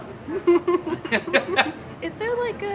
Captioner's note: giggling